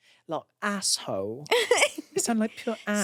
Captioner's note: laughs